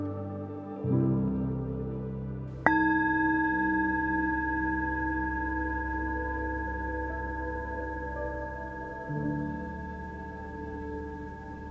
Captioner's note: chime